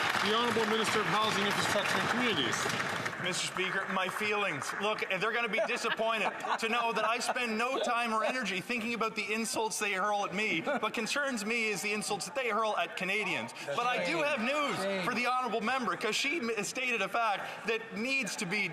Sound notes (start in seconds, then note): 5.7 some Applause